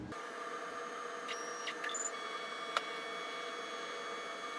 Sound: machine buzzes

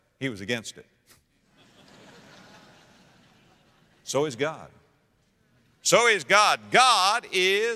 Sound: audience laughter

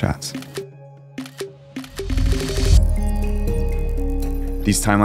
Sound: camera shutter clicking

